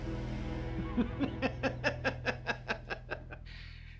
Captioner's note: Ralph laughs